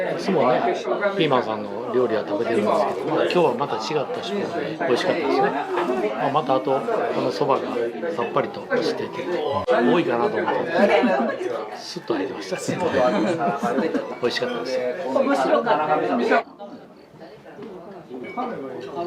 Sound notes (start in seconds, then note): 12.9 laughs